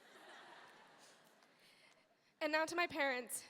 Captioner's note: audience laughing